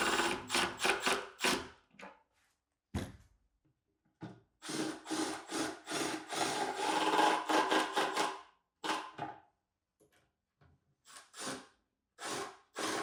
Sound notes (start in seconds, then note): 4.7 driller whirring